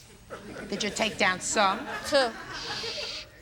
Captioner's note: audience laughing